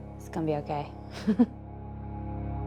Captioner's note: laughs